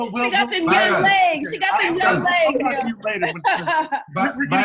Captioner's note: laughter